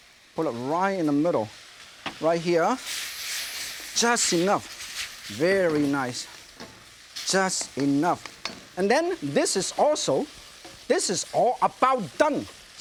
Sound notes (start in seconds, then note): 6.4 stirring